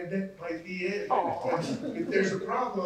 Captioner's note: chuckle